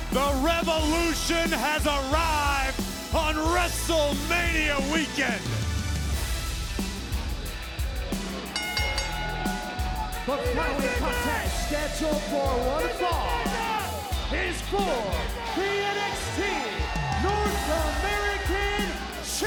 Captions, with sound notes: The revolution has arrived on WrestleMania weekend! (bell ringing) The following contest, scheduled for one fall, is for the NXT North American Championship!